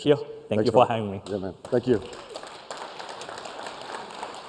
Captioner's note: applause